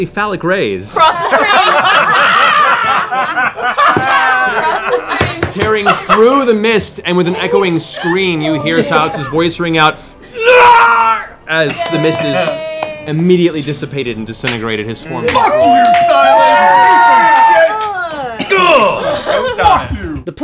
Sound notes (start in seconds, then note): 1.0 laughter; 10.3 screams; 15.2 cheering